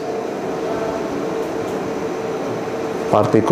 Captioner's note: clicking sound